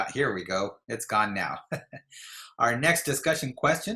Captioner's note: chuckles